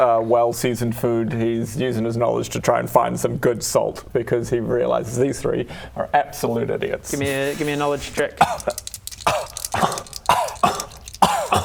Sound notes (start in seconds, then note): 7.0 scoff